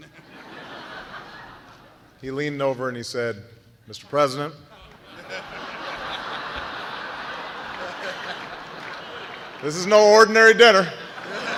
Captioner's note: laughter